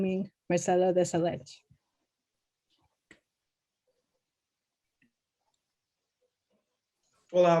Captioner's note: speaking Portuguese